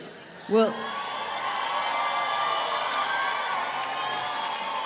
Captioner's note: applause